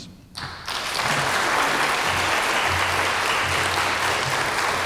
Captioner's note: audience applauding